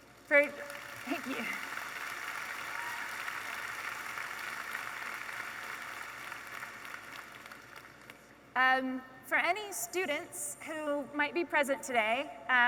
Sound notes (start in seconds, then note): 2.2 audience applauding